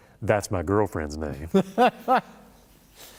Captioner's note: laughter